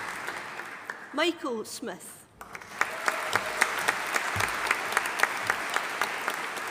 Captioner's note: audience applauding